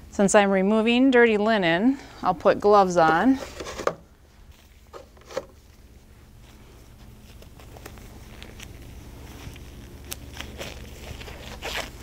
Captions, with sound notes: Since I'm removing dirty linen, I'll put gloves on, (cardboard box rustling) (plastic gloves rustling)